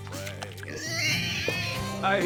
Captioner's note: pig squealing